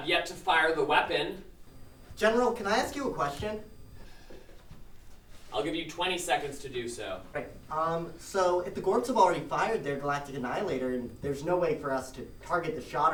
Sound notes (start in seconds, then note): none